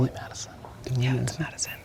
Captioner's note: whispering